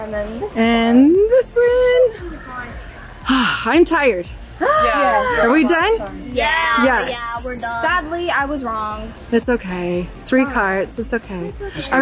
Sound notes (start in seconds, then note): 3.3 sighs